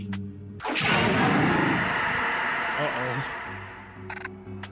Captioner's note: monster yells distantly